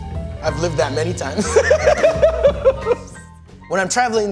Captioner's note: laughs